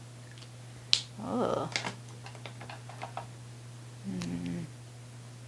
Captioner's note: cap clicking